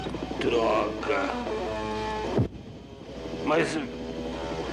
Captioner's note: distant Bombing